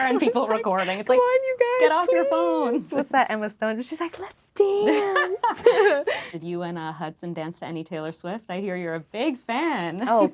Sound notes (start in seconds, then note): 1.0 laughing; 4.9 laughing